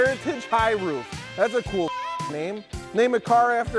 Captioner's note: beep